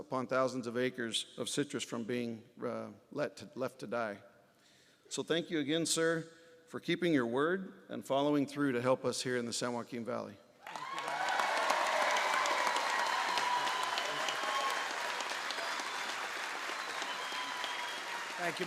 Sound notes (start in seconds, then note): 10.6 applause